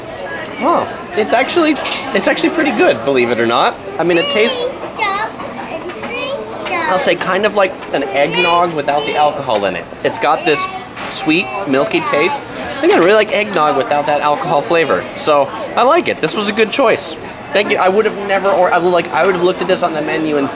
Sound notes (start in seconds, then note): 5.6 child softly chattering